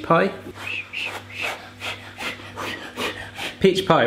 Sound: blowing

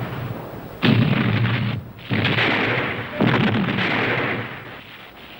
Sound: explosions booming

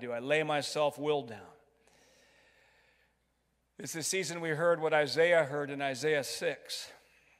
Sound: none

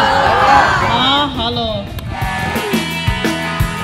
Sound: people cheering; speaking in foreign language

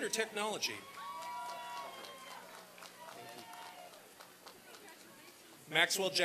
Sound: applause and cheering

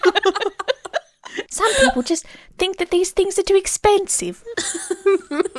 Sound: laughing

